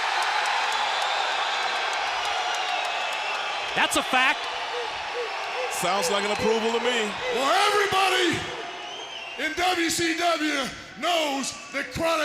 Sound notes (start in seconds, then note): 1.5 crowd cheering